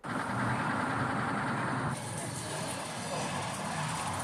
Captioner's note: traffic noise